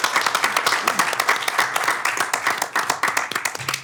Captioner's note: applause